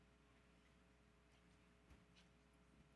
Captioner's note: none